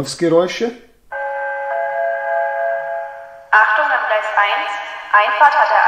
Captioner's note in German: Gong